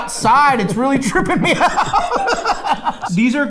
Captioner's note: laughing